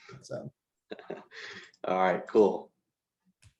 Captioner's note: giggles